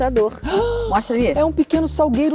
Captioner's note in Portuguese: som de surpresa